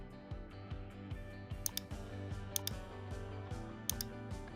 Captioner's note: mouse clicking